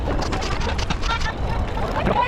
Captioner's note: wind blowing